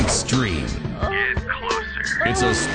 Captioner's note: moan